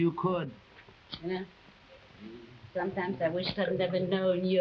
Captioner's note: Uncle Pio humming